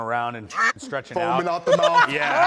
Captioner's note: quack